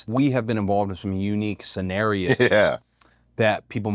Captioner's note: laugh